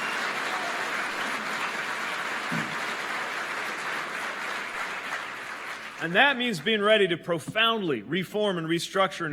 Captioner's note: applause